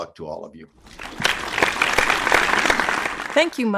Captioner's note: audience applauds